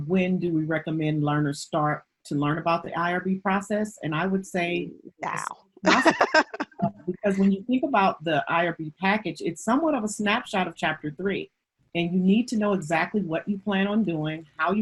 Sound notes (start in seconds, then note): 5.8 laughs loudly